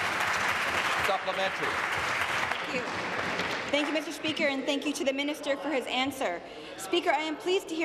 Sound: applause

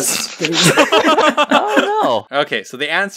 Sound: laugh

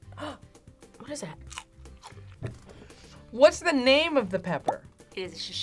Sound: gasps; chomps

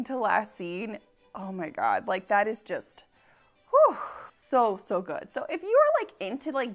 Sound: exhales

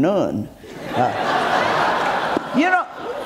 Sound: audience giggles

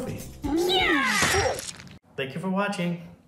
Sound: squishing; grunting

